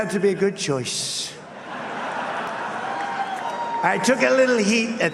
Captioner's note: laughter